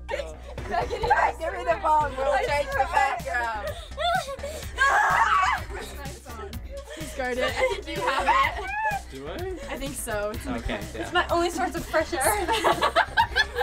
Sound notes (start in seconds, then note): 4.6 cries out; 12.1 laughs